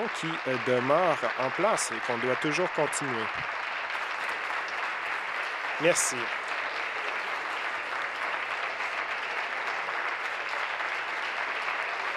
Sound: applause

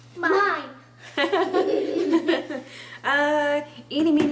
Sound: laughing

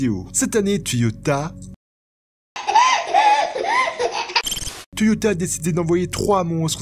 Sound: meme baby laughing

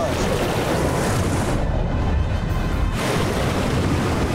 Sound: water splashing

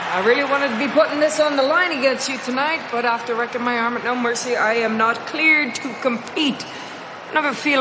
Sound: cheering

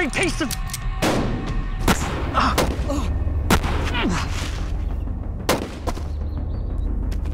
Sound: gun shots, grunting

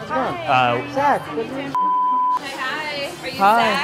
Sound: beep

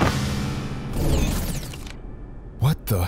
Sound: electrical whizzing

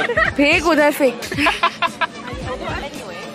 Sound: laughter

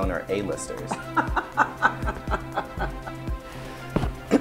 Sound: laughs

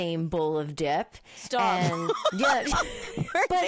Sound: laughing

